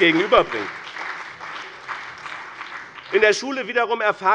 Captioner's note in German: Beifall bei dem BÜNDNIS 90/DIE GRÜNEN und der CDU